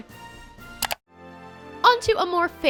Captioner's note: clicking